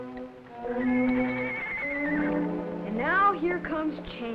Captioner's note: neighing